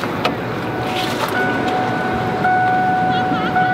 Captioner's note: car dinging